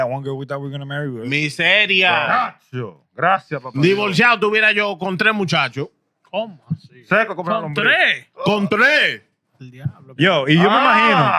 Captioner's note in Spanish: Hablando en idioma extranjero